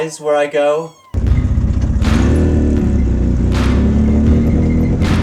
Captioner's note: engine revving